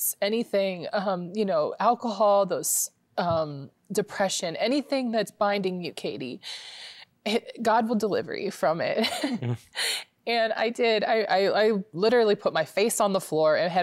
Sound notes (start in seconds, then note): 9.0 giggling